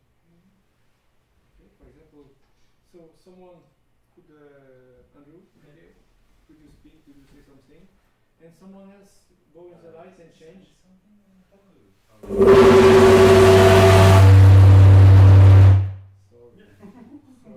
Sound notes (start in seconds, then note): 12.2 loud buzzing noise